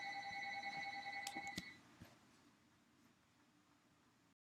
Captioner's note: incidental phone ringing--sorry!